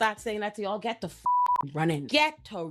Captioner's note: beep